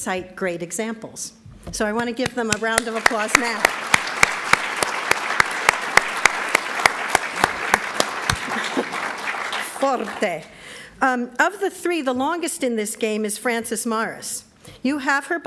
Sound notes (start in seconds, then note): 5.9 applauds; 7.9 applauds